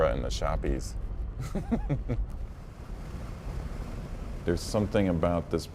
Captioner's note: chuckles